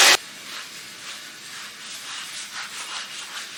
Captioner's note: light scrubbing noises